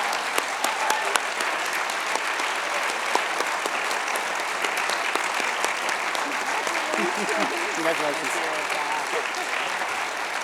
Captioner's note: cheers and applause